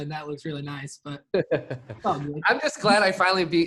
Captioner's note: laughs